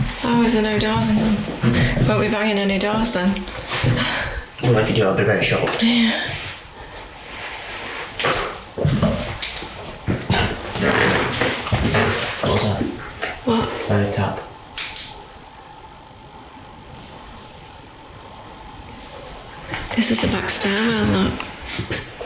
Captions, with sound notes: Oh, is there no doors on them? Won't be buying any doors then! Well, if you do I'll be very shocked! [more creaky floorboard noises] What was that? What? I heard a tap. This is the back stairwell look.